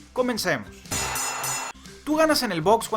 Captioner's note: boxing bells